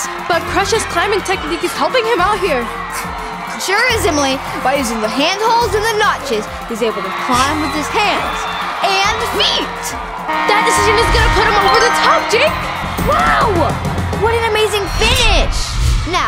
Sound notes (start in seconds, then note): 8.8 horn sounding